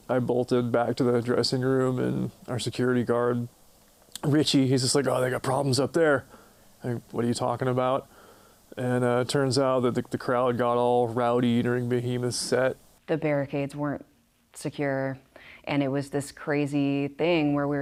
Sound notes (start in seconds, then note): none